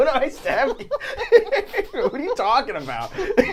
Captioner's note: all laughing